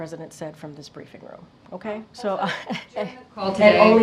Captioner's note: laughs